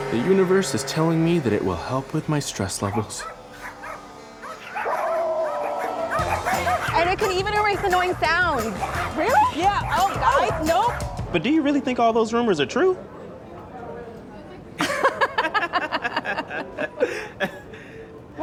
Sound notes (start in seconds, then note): 3.7 dogs barking; 5.0 dogs howling; 14.8 laughter